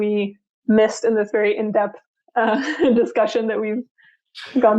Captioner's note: laughs